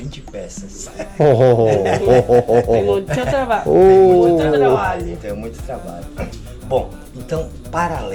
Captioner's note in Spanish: risas